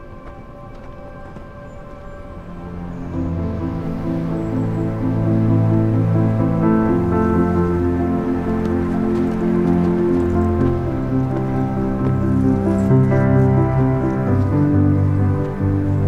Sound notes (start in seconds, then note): 3.9 wind rustling